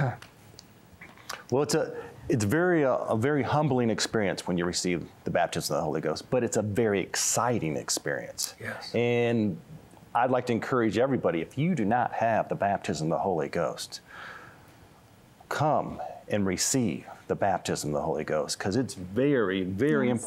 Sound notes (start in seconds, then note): 8.9 quietly